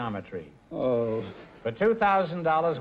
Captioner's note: moaning